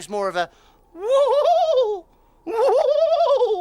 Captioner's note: Iver hooting